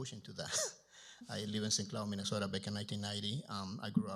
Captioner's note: chuckles